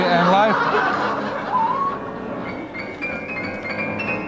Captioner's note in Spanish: multitud ríe